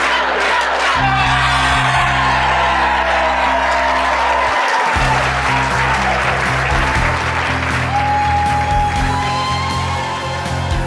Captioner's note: crowd cheering